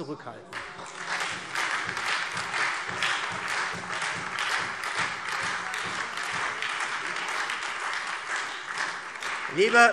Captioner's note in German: Beifall SPD und Freie Demokraten